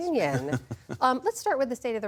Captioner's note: laughter